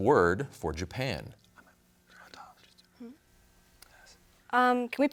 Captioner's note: team whispering